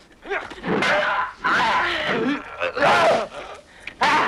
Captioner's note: raider shouts; swords clanging